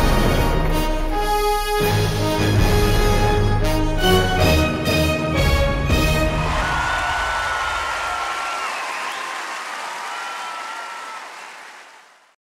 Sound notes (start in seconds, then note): 6.3 audience applauds